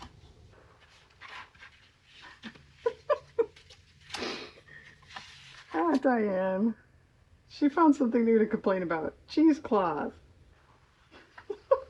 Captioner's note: laughs